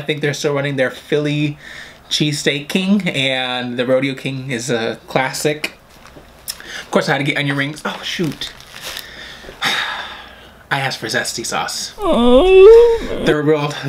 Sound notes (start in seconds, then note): 12.0 crying noise; 12.0 sighs